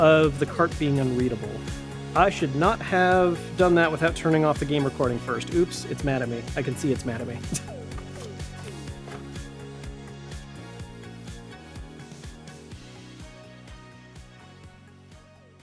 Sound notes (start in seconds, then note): 7.4 laughs; 10.1 upbeat music fades